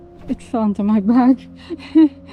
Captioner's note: laughs